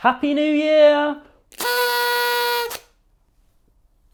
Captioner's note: blows party blower